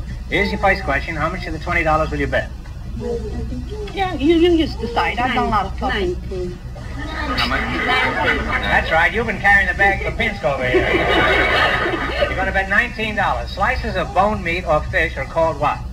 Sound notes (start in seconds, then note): 9.5 audience laughs